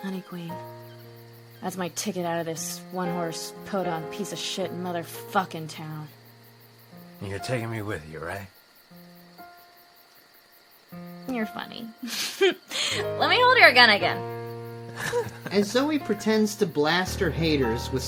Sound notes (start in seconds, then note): 11.9 laughs; 14.9 Sam laughs